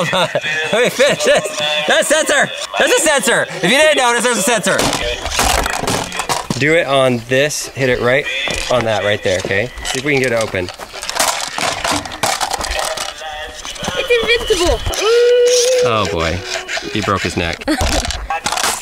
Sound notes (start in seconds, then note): 4.8 smashing plastic; 9.7 banging plastic; 12.8 mechanical singing